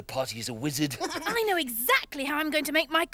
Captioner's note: Iver laughs